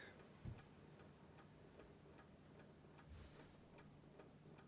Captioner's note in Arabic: دقات الساعة